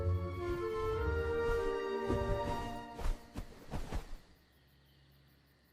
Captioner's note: calm music; wings flapping